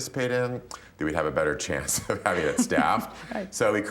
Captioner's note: laughter